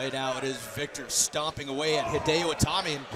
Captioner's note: crowd chatter